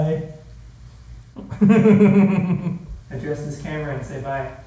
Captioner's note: laughs